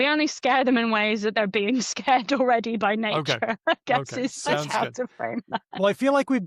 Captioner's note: laughs